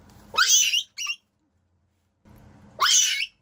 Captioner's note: screaming in labor pain